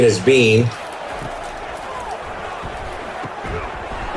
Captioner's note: crowd Noises